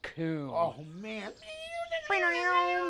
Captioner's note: he makes guitar sounds